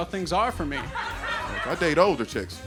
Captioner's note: audience laughing